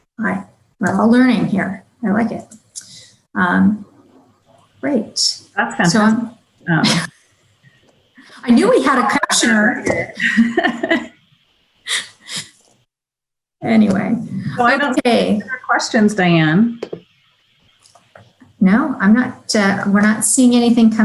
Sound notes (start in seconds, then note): 13.1 chuckling